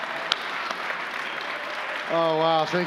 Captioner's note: cheers and applause